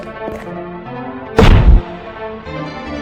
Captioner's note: smash